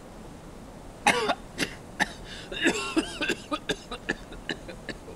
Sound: choking and coughing

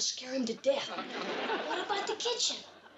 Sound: audience laughs

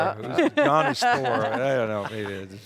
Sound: laughs

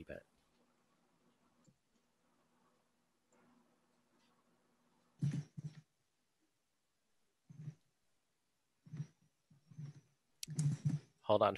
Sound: silence

